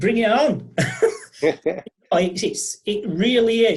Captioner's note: laughing